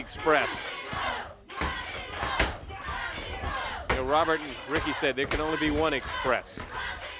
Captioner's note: crowd cheering